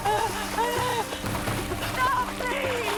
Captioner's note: sobbing